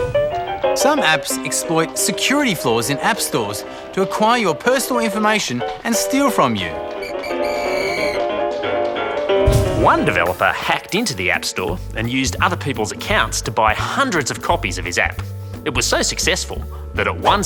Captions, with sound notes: Some apps exploit security flaws in app stores to acquire your personal information and steal from you. (Whistle blows) One developer hacked into the app store and used other people's accounts to buy hundreds of copies of his app. It was so successful that at one stage